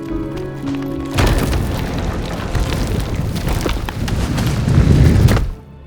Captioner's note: earth crunching and sliding